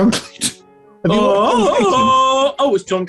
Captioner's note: tarzan yell; laughing